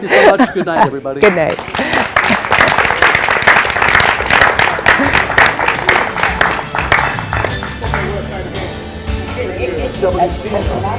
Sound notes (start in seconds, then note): 4.6 laughing; 6.3 applause